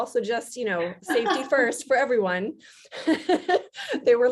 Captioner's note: laughs; laughs